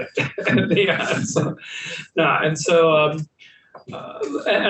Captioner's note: laughing